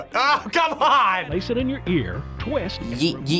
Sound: voice-over

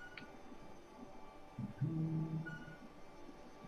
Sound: humming

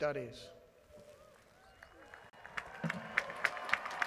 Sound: applause

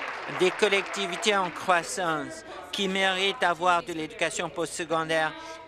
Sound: applause

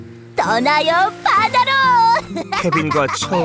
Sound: giggling

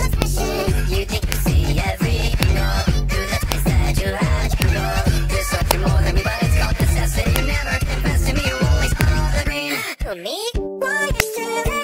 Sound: gasp

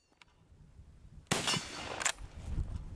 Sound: gun fires

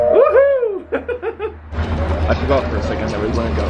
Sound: cheers

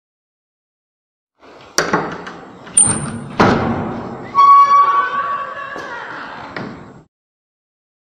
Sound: sound of door

